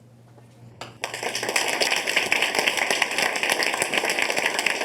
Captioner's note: group clapping